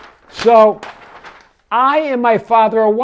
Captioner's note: paper rustling